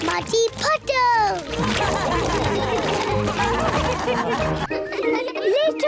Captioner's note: all laugh